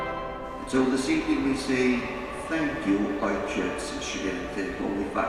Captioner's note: speaking in Polish